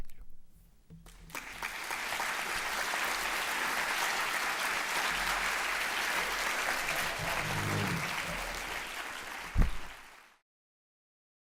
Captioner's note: applause